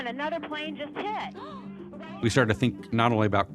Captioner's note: gasping